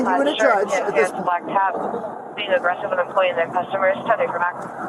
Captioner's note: radio chatter